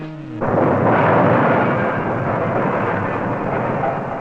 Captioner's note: crashing